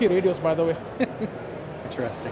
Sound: chuckles

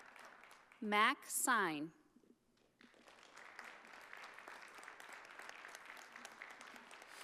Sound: audience applauding

